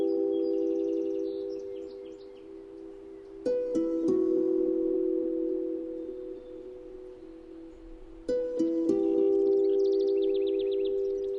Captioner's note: birds chirping